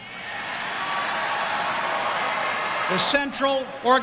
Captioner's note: audience cheering